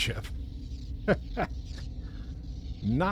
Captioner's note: laughter